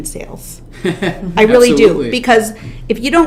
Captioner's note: laughs